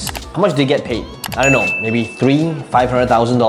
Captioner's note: bell rings